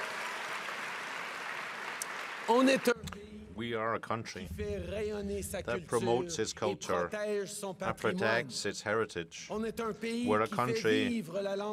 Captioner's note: cheering and applause